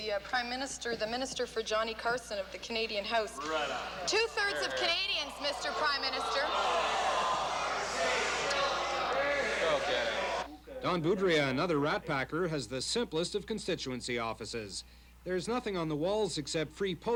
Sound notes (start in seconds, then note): 10.0 loud groans